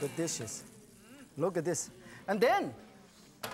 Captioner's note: audience groans